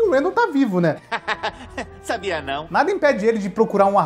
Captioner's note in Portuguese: risos